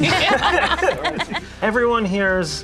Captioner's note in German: Gruppe lacht